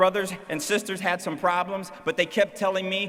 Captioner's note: none